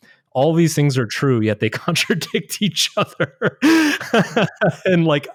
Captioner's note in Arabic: يضحك